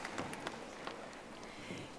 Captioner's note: audience applauding